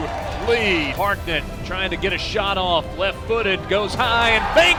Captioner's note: voiceover